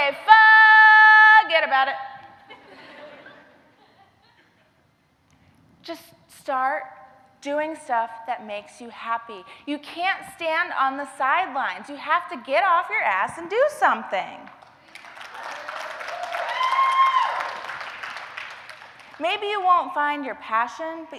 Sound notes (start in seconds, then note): 14.8 applause, cheers